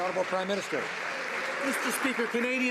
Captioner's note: some Applause